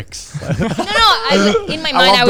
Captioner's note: all laughing